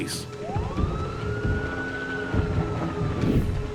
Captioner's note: siren blares